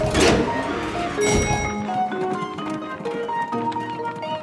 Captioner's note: dinging